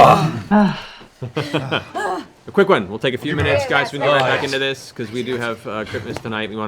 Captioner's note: laughs